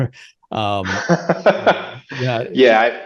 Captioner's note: laughing